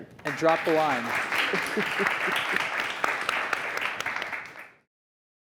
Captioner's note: applause